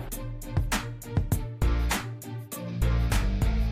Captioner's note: none